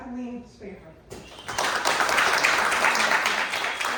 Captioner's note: clapping